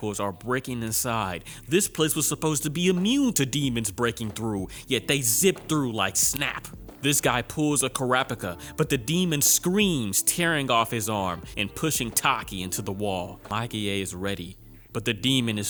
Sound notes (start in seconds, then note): 6.3 snap